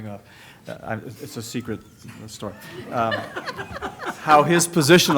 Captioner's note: laughter